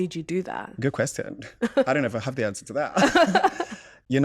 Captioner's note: laughter